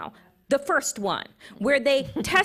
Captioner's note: chuckles